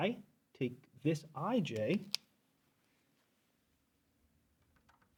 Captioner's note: marker cap clacks